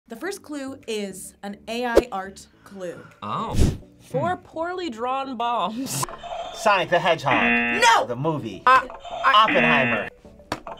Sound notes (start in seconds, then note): 7.2 buzzer rings; 7.2 buzzer; 9.1 buzzer rings; 9.2 buzzer